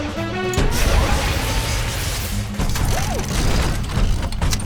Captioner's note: robots whirring